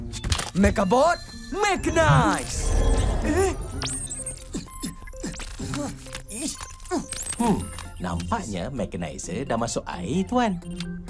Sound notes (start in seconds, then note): 2.7 statics; 4.2 Amato grunts desperately